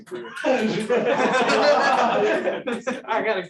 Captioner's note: laughter